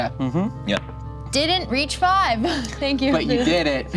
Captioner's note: laughs